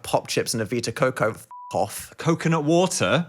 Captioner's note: beep